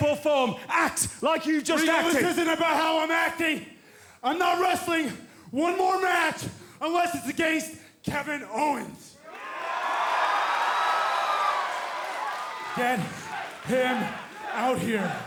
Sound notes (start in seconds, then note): 9.2 cheers and applause; 14.8 fans chanting